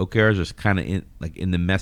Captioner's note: uh